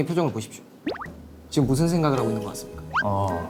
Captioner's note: surprised sound effect